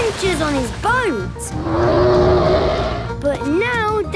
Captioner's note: loud roar